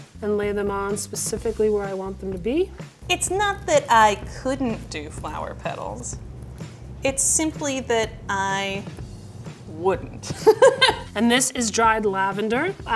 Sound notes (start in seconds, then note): 10.2 laughs